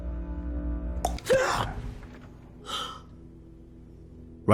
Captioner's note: tongue noise